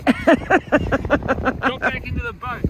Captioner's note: laughs